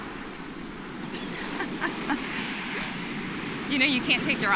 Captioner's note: chuckles